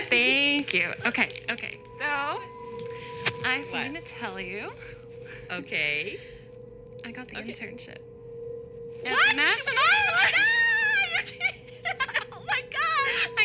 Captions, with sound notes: - Thank you. Okay. Okay. Okay, so I have something to tell you. Okay, I got the internship. I got the internship. - What?! - At the national. (excited yelling) - Oh my gosh!